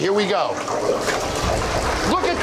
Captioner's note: fryer bubbling